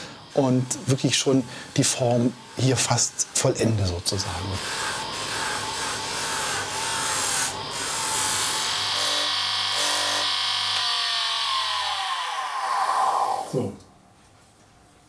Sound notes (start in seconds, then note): 4.4 unsteady grinding noise; 9.1 humming whirring; 12.3 grinding machine stops